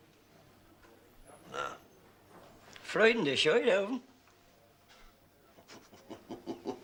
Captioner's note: Riéndose